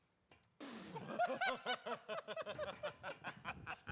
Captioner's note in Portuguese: men laughing